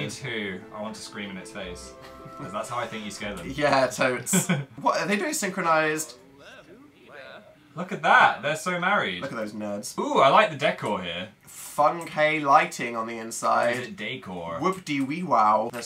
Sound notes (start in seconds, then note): 1.8 laughs; 13.6 american voice